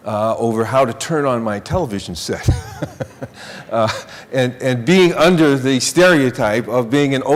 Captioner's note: laughing